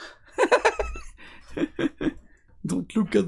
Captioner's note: laughs